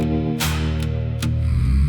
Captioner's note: groaning